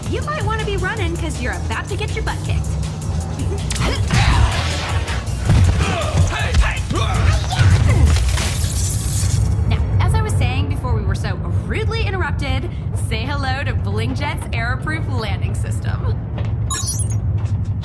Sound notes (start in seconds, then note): 3.4 chuckles; 7.9 Alex grunts